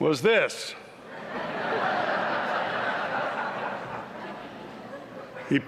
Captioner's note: laughter